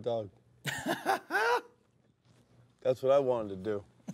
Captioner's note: laughs